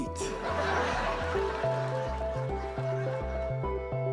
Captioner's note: audience laughing